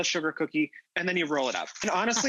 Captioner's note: laughing